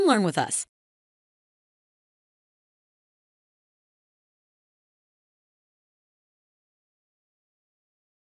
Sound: silence

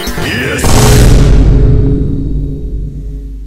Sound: BOOM x5

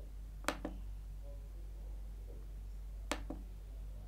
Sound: keyboard clicking

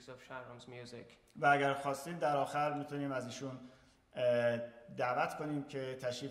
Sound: speaking in farsi

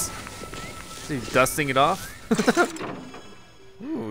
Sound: laughter

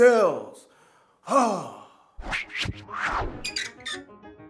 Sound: loud sigh

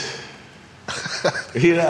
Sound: laughs

